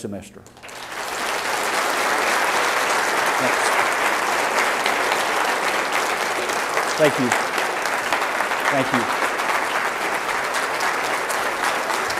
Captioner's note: applause